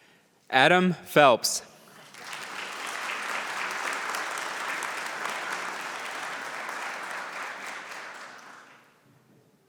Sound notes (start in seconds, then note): 1.8 applause